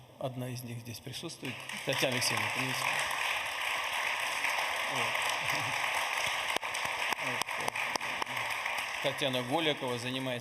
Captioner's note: applause